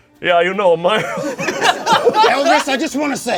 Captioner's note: group laughs